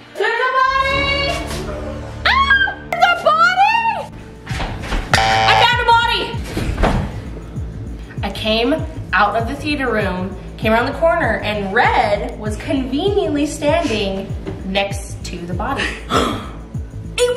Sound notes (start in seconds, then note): 2.2 screams; 5.1 buzzer sound; 15.9 gasps